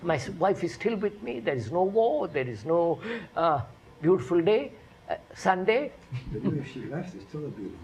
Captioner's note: laughs